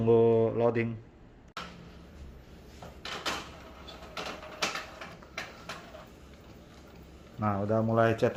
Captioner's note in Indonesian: suara mesin printer